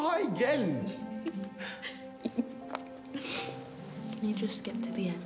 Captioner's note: laughing